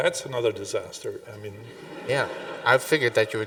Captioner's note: audience laughing